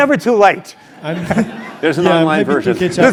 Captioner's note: laugh